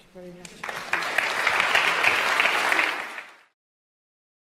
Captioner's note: applause